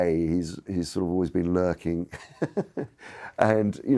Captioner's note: chuckles